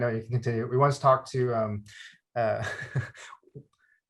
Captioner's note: chuckles